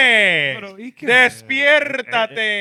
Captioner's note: speaking In Foreign Language